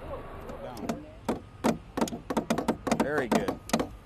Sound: hammering

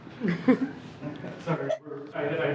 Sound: people laughing; laughing

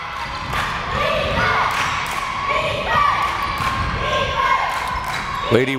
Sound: crowd chanting defense

